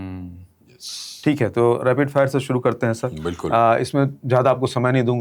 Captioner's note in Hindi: नाक से की जाने वाली आवाज़